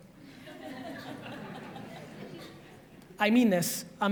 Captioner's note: audience laughs